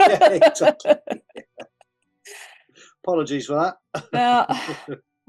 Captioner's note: both laugh